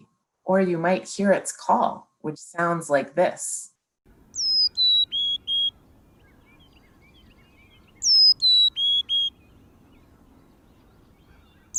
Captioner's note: chickadee call